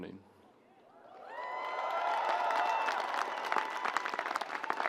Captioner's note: audience applauds